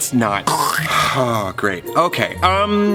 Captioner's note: Patton makes a choking sound